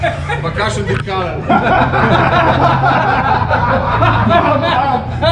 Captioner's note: all laugh